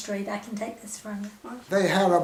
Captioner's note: lower voice